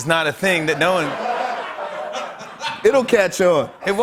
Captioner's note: laughter